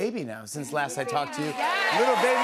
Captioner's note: cheers and applause